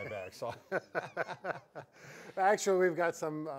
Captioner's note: both laughing